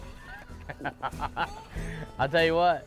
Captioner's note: laughing